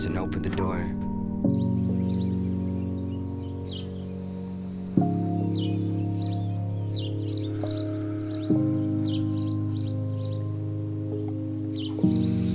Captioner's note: breath